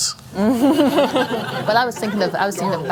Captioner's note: laughter